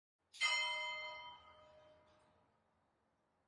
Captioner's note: bell chimes